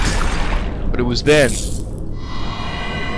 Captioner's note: glass breaking; voiceover